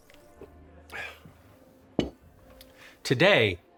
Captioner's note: host sighs